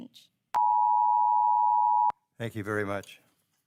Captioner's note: timer beeps